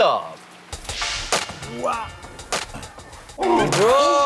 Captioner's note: the door opens